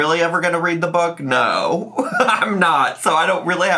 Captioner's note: laughs